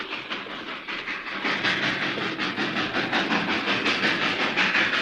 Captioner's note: train chugs